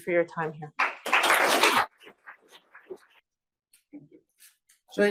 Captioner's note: audience applauds